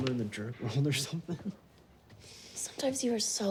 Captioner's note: chuckles